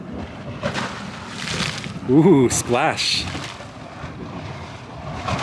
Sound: water splashing

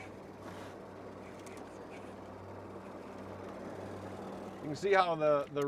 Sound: reel cranking

